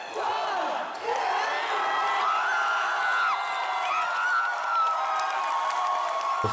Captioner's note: cheering